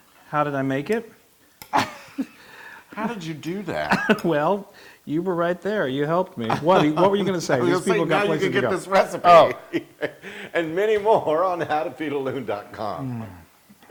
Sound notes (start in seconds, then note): 6.8 laugh; 10.3 laugh